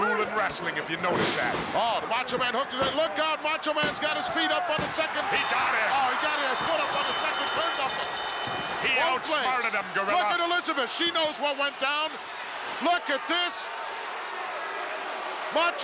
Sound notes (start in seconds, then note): 5.3 bell rings; 14.1 crowd boos